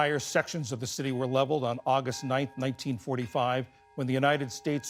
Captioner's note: bells tolling